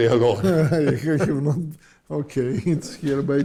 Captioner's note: laughs